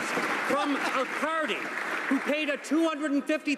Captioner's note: some applause